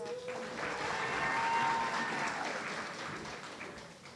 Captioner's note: audience cheering